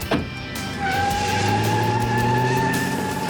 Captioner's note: tires squealing